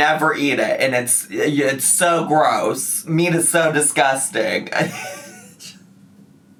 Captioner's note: laughs